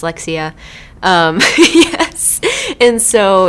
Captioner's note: laughs